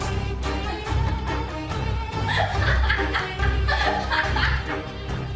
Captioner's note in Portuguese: Risada maligna